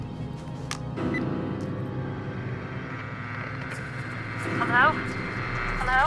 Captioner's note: phone beeping; ominous orchestral music; phone beeping